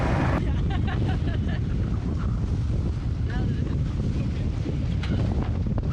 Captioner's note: chuckling